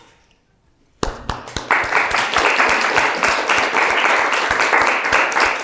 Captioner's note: audience clapping